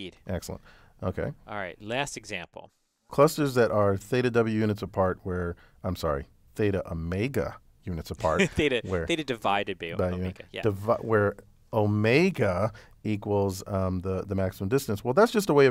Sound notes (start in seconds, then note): 8.2 laugh